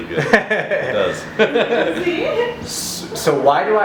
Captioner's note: both laughing